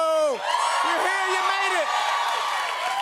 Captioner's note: cheers and applause